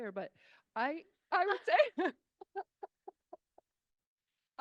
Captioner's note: laughs